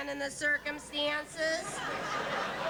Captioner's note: laughter